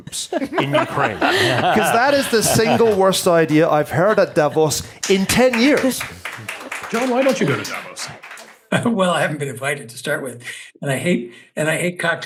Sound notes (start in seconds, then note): 0.4 laugh; 5.0 applause